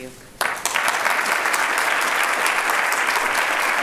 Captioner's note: applauding